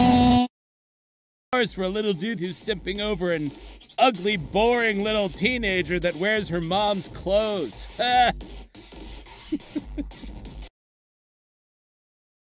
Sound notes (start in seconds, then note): 9.3 awkward laughing